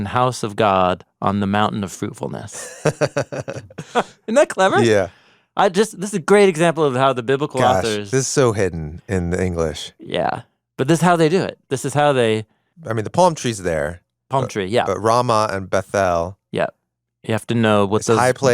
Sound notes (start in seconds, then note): 2.5 laughs